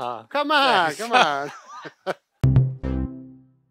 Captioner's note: laughs